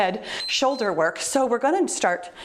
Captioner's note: timer beeps